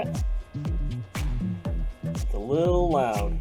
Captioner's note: fans whirring